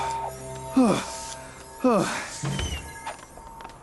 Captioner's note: gasping